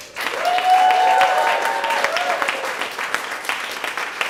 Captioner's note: applause